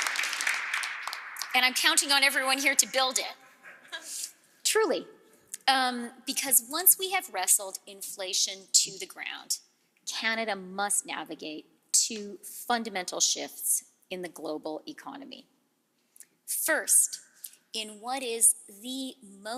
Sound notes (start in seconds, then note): 0.0 applause